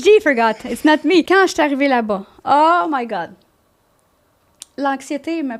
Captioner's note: in french